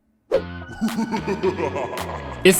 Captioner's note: foreboding laughter